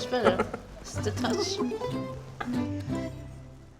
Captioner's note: Yotam laughs